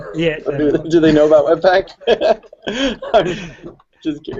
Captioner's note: laughing